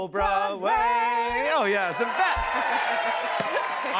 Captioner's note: cheers and applause